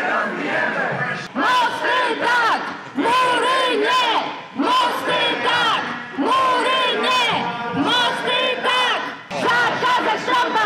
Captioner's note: chanting